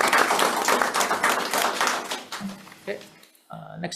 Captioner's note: audience applauds